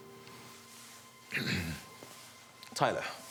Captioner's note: Alex clears throat